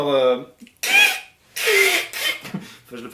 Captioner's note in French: imitation des ongles sur un tableau noir